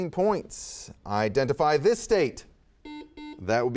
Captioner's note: buzzer beeps